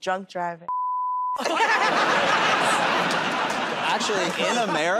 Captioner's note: laughter and applause